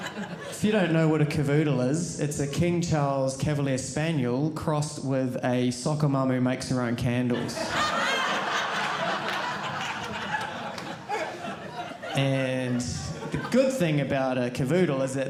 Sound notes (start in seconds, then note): 7.3 audience laughing